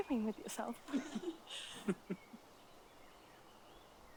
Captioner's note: giggling